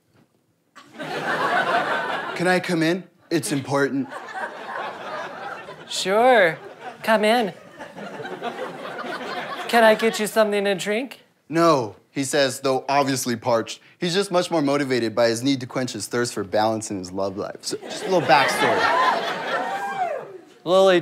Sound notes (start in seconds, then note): 0.8 audience laughter; 2.5 in dramatic voice; 4.0 audience laughter; 18.3 audience cheers